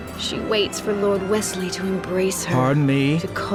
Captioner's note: none